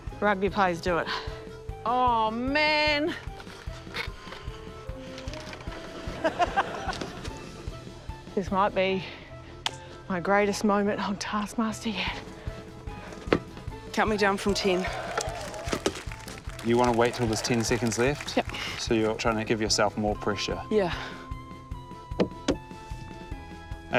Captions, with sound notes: Rugby players do it. - Oh man. - (LAUGHS) - This might be my greatest moment on Taskmaster yet. - Count me down from 10. - You wanna wait till there's 10 seconds left? - Yep. - So you're trying to give yourself more pressure? - Yeah.